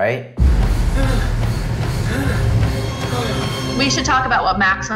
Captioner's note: heavy breathing